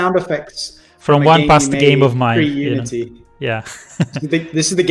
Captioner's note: laughs